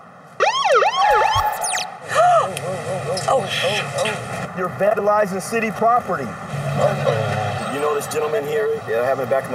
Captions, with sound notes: (sirens blare) - Oh! - Whoa, whoa, whoa, whoa. - You're vandalizing city property. You know this gentleman here that I have in the back